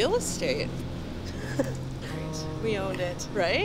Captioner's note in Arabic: ملاك يضحك